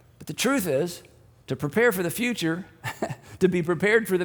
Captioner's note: laughs